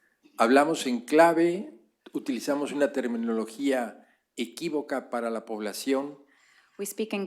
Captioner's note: speaking spanish